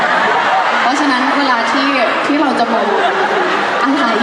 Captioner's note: fans screaming